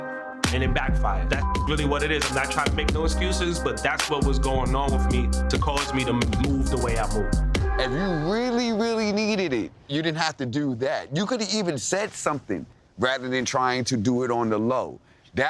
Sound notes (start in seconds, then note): 1.4 beeps